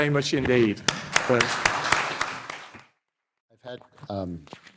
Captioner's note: audience clapping